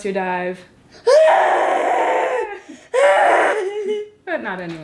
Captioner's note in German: schreit